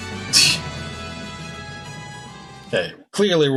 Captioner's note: scoffs